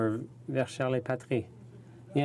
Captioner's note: speaking in french